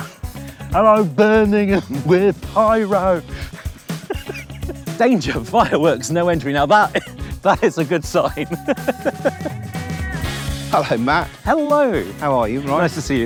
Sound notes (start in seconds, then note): 3.7 laughs; 6.1 laughing